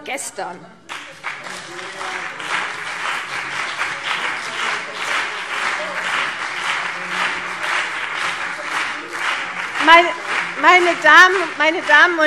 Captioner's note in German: Beifall CDU und BÜNDNIS 90/DIE GRÜNEN - Zurufe Freie Demokraten